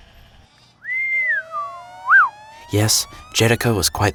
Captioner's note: shepherd whistling